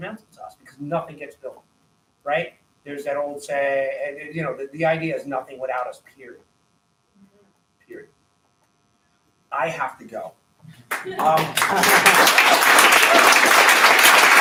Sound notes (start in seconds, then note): 10.8 applause